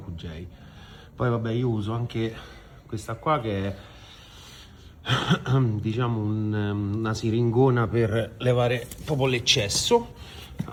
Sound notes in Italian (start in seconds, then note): 5.1 schiarire la voce